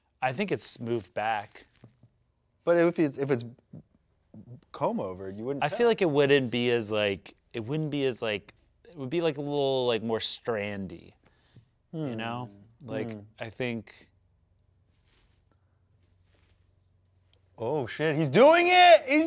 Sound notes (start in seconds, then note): none